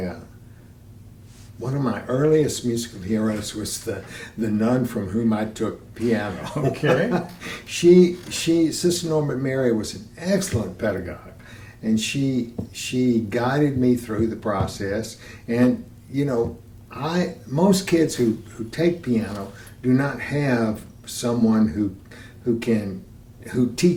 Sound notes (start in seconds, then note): 6.3 laughter